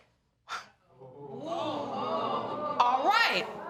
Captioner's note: sighs; audience gasp